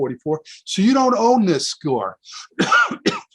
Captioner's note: coughs